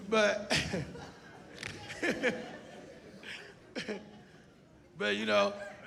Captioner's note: laughs